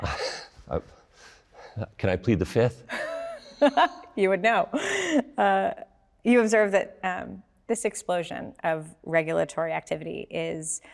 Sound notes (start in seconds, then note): 0.3 laughs